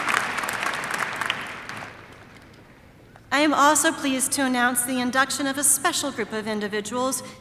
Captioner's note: applause